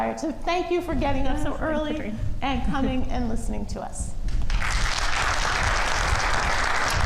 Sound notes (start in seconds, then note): 4.4 crowd applauding